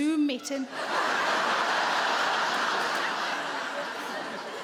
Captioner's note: audience laughing